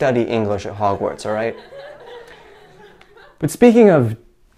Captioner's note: chuckle